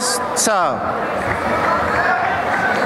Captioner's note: applause